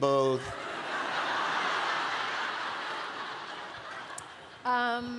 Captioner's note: laughter